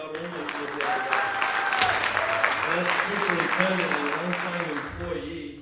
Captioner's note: applause